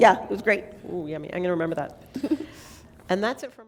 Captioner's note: laughter